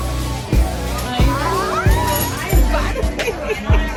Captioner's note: squeals